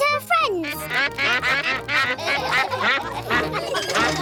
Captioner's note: quacks; all quack; laughter